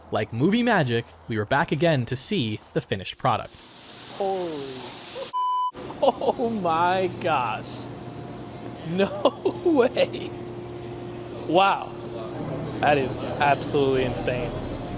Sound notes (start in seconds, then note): 5.3 beep